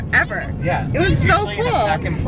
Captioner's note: yelling